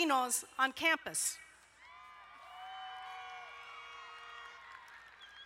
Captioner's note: crowd cheering